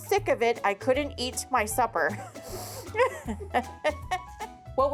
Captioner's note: chuckles